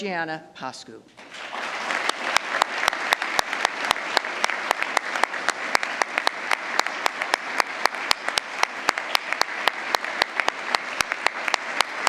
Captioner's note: applause